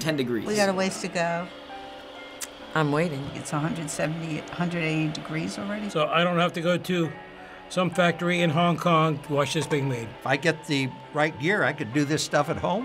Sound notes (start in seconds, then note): 1.4 machine whirs; 2.3 tsks